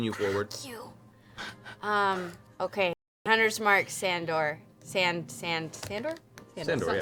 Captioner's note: strained